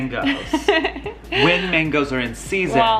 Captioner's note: laughs